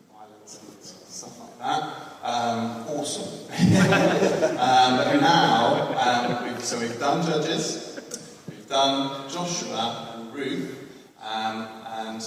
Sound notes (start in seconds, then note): 3.6 laughs